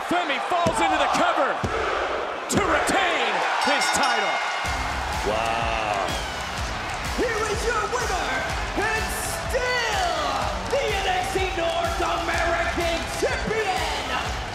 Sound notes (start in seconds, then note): 3.5 bell rings